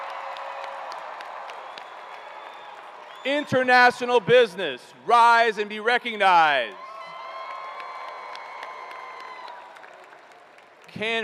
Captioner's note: cheers and applause